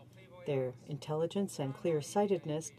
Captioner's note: speaking in french